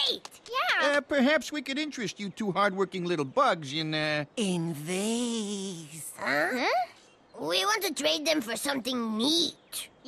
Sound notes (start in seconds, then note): none